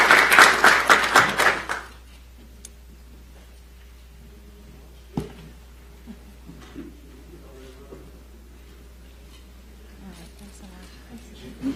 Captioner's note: applause